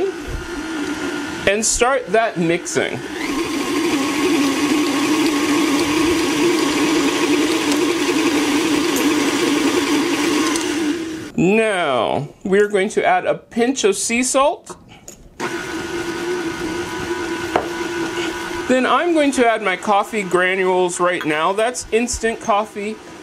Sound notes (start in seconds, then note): 5.4 mixing sounds